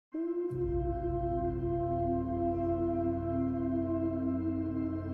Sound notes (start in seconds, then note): 0.1 soft music; 0.5 wolves howling